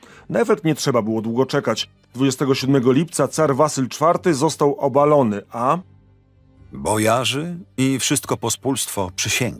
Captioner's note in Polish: Lektor